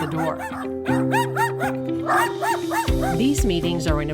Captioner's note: dog barking